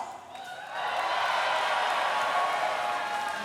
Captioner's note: cheering and applause